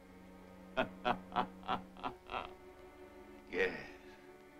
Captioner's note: soft chuckling